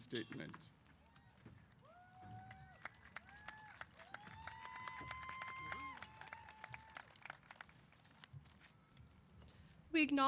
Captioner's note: applause & Cheers